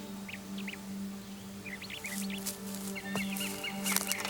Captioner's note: birds chirping